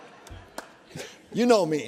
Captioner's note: laughter